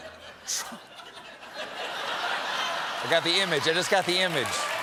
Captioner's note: laughter